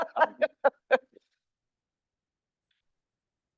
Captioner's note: laughing